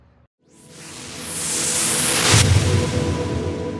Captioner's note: whooshing